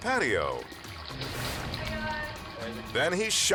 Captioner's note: water trickling